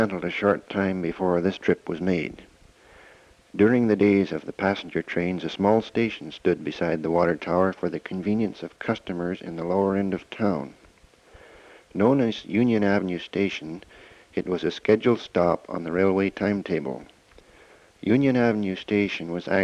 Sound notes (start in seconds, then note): none